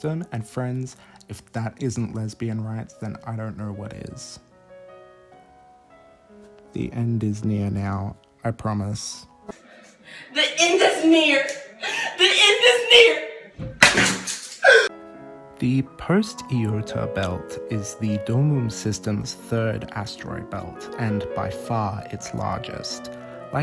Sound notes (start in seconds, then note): 6.7 soulless voice; 13.8 scissors clattering; 14.4 gasping sob